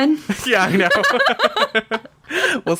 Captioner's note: laughs